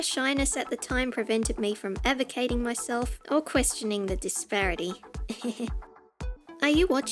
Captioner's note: heh heh